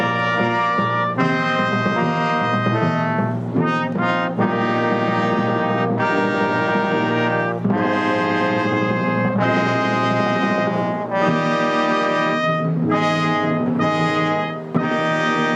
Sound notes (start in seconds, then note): none